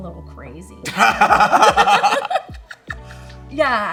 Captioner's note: both laugh